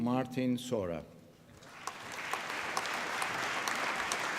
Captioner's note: applause